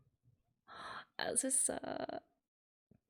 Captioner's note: breathes